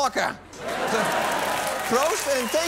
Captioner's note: cheering and applause